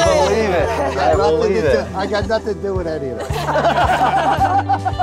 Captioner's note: laughs